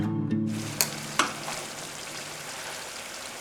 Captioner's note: food frying